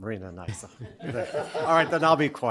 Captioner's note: laughter